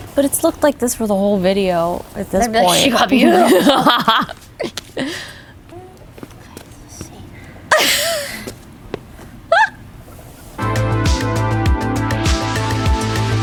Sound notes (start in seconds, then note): 2.6 laughing; 7.9 laughing; 10.6 gentle music